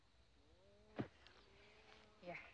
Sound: none

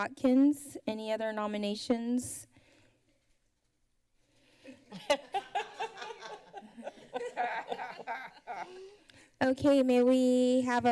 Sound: laughter

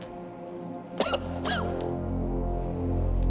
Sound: coughs

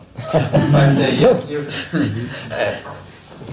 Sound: laughter

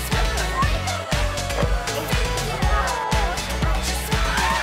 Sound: Chad cheers; student chuckles

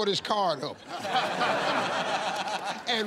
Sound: laughter

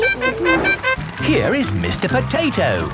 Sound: all laughing; horn tooting

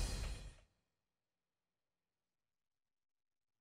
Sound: silence

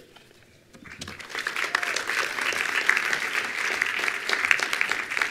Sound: attendees applauding

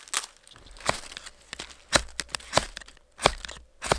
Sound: knife scraping

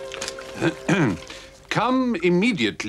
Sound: clears throat

